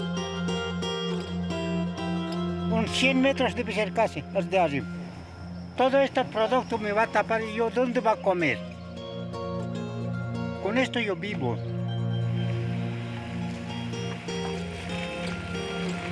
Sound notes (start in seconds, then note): 3.1 speaking in foreign language